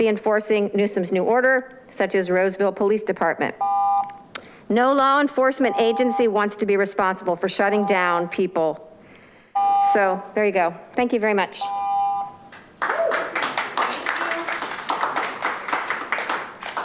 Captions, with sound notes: not be enforcing Newsom's new order, such as, Roseville police department. (continuous beeping) No law enforcement agency wants to be responsible for shutting down people, so there you go. Thank you very much. (audience applauds)